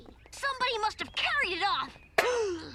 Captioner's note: gasps